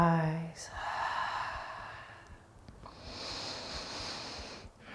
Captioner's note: breathing deeply